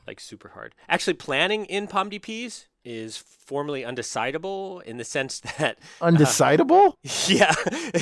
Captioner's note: laugh